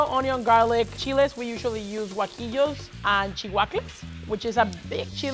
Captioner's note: speaks Spanish